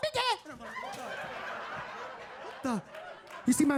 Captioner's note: audience laughing